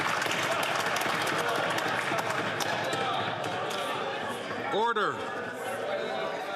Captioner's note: some Applause